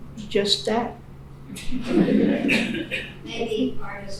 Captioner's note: laughing